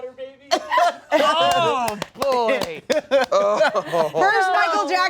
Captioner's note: clapping